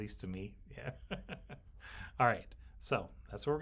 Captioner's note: laughs